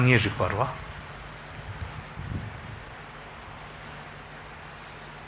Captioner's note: speaks in foreign language